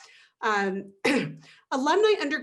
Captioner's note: clears throat